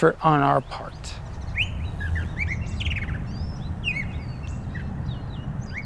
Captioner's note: birds chirping